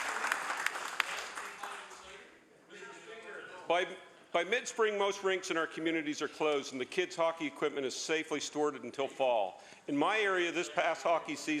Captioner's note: applause